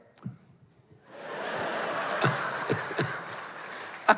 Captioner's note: laughter